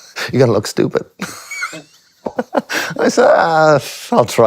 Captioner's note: laughs